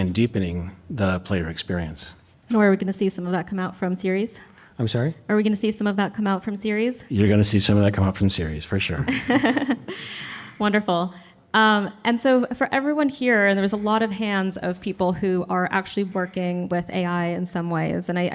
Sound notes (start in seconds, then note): 9.0 laughing